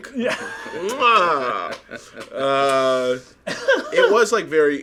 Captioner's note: kissing